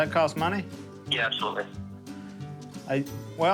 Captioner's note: on phone